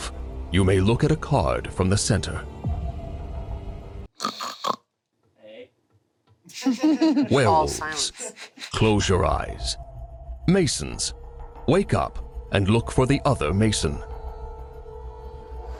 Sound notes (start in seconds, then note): 4.2 snores; 6.5 group giggling